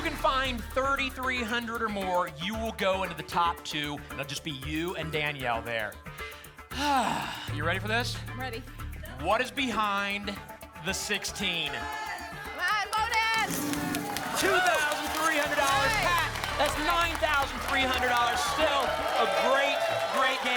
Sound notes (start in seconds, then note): 6.7 sighs